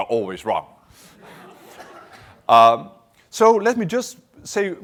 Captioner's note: laughter